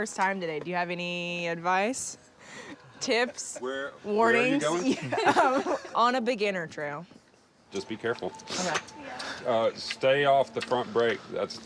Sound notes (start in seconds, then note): 4.8 laughs